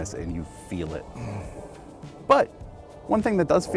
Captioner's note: groans